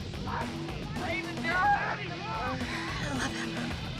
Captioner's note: shouting